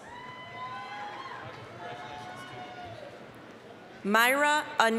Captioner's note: applause, cheering